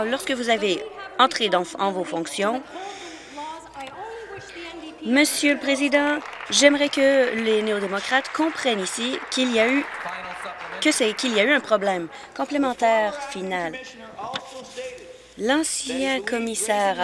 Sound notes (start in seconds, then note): 11.1 applause